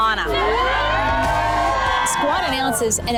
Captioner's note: upbeat music; women cheering